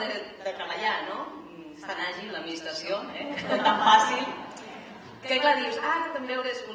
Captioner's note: laughs